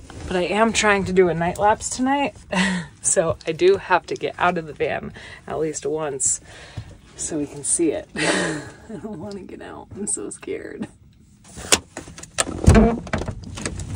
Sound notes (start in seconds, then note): none